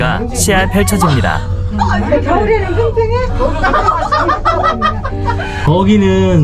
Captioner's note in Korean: 웃음